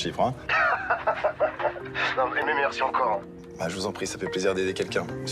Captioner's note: Gary laughs